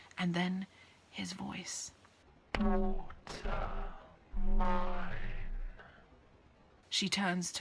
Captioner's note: voice distortion